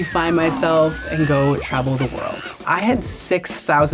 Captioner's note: jungle animals chatter